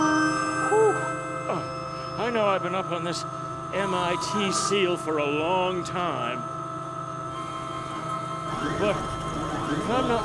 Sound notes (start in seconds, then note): none